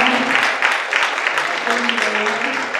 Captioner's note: clapping